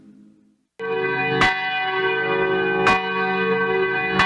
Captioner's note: bell ringing